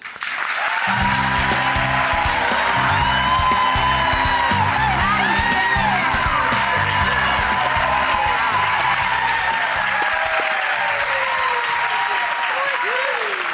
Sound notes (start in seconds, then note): 0.2 applause; 2.8 bright rock music; 9.7 cheering